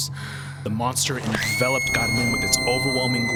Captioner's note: Carmen screams